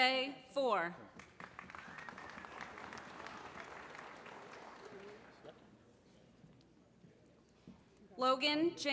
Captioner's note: applause